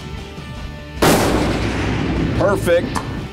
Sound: gunshot

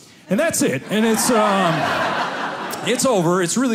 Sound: audience laughing

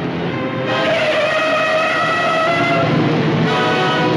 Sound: tires screeching; dramatic music

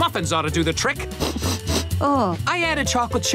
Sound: sniffing

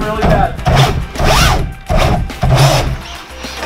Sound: car whirs

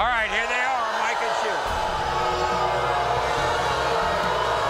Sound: audience boos

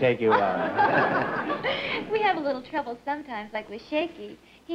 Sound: laughs

